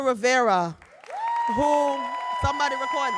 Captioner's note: audience cheering and applauding